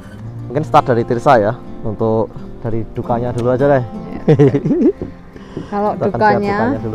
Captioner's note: chuckles